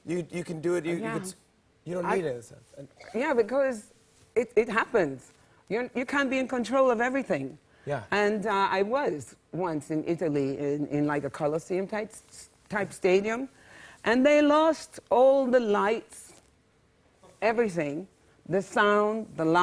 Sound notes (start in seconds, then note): none